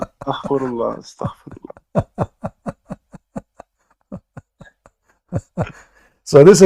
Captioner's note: Ketawa